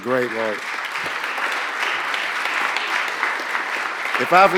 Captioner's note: applause